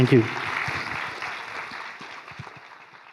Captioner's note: applause